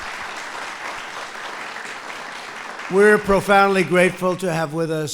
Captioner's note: applause